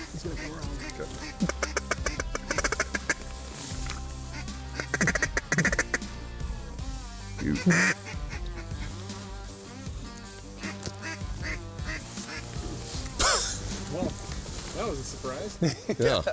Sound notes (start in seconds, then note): 2.3 duck call blowing; 8.3 light music; 10.5 duck quacking